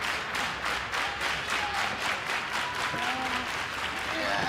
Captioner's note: clapping